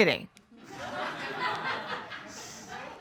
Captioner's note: laughter